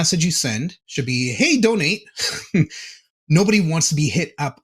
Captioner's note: chuckling